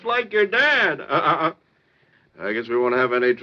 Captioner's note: chuckles